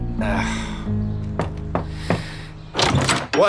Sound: weary groan; knocks on door

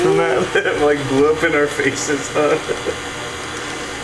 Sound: chuckles

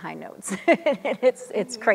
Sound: chuckles

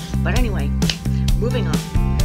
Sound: pwap

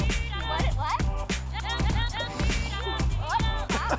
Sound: laughter

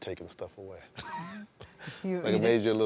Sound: laughs

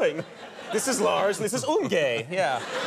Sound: audience laughs

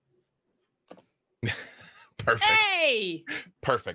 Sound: laughs

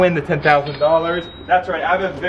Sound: cash register ka-ching

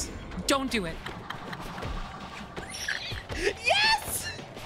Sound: laughing

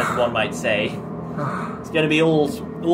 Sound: sigh

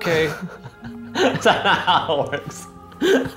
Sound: laughing

